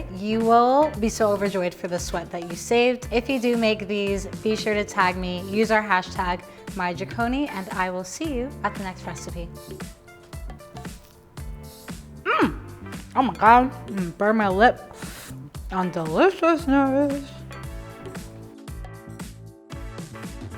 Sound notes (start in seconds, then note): 9.6 energetic music; 14.9 breathes in; 17.7 energetic music